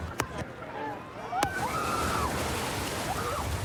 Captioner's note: excited screaming